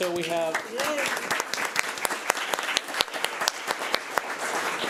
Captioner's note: crowd applauding